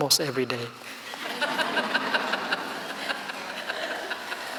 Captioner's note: laughing